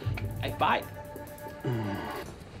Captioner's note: frustrated sigh